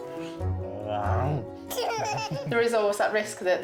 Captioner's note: growls; laughs